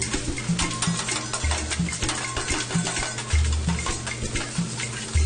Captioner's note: spatula clangs